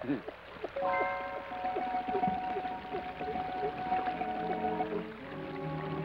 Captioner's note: water trickles; suspenseful orchestral music